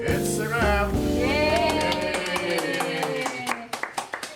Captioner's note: tired crew celebration noises